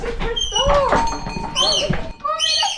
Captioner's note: door bell chimes